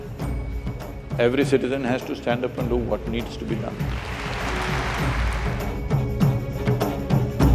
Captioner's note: applause